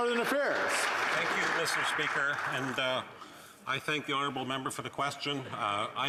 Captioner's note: speaking indigenous language